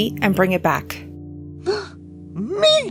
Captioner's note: gasp